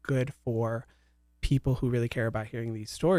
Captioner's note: none